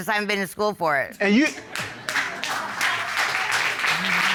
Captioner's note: audience applauds